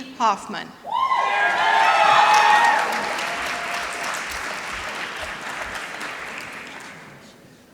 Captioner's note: applause